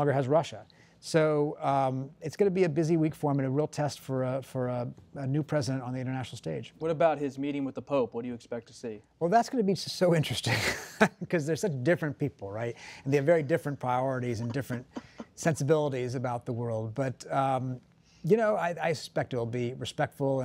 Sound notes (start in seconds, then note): 12.4 laughs